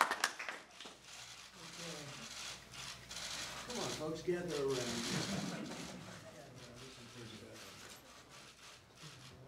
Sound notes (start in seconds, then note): 0.0 applause